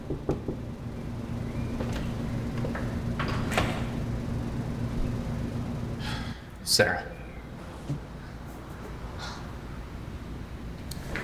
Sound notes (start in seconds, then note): 0.0 hand knocking; 3.0 door clicking